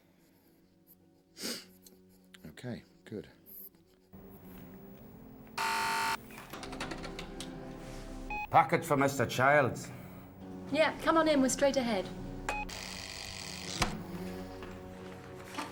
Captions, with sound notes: Okay, good. (buzzing) - Package for Mr. Childs. - Yeah, come on in. We're straight ahead. (door buzzing)